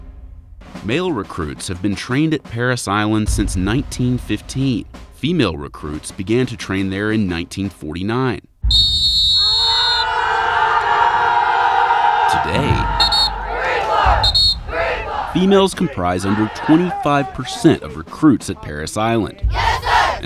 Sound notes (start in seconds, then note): 8.6 whistling; 11.2 yelling